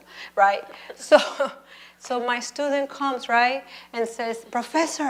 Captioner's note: laughs